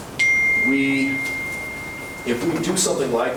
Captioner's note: phone chiming